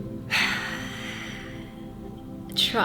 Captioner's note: exhales